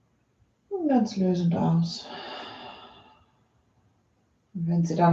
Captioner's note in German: seufzt